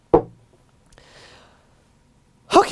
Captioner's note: deep breath